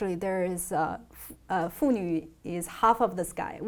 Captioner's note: speaking in foreign language